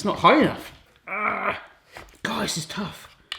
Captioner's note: grunting